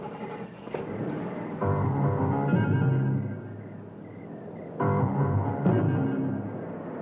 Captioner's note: engine roaring; suspenseful music